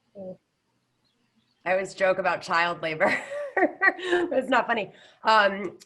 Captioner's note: laughs